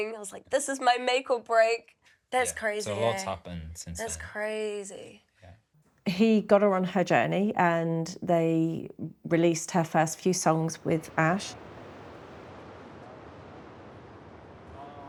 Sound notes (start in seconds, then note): 11.3 waves crash